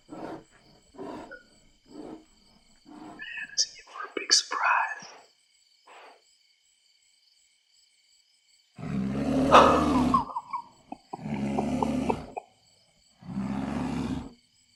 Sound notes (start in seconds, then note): 0.0 distant heavy, punctuated breathing; 8.7 heavy, guttural growling